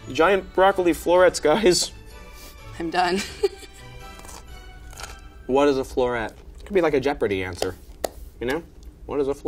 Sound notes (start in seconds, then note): 3.7 laughs; 4.7 crunching